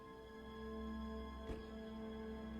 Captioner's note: car door closing